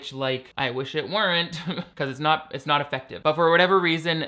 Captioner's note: laughs